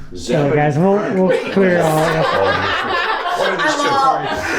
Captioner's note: group laughing